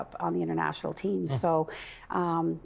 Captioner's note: laughing